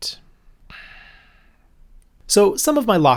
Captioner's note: sigh